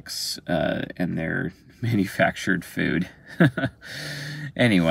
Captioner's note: laughing